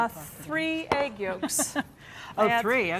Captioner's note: laughs